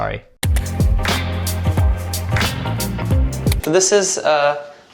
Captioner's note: upbeat music; button clicking